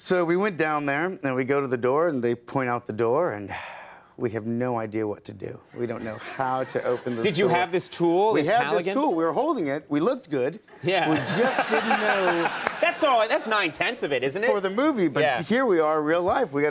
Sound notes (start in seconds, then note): 3.5 sighs; 11.1 Conan laughs